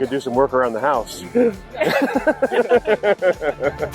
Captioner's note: laughs